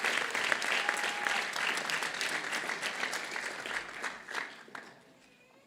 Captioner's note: applause